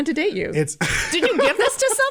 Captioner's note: laughter